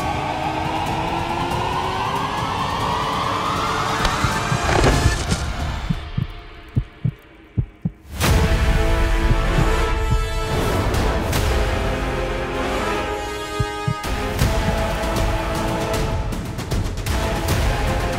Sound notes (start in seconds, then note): 4.0 thuds